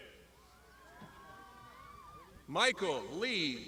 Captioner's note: crowd shouting